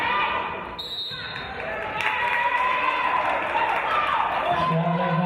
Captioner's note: referee's whistle